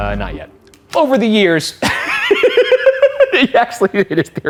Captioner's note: laughs